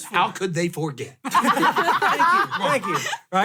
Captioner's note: laughter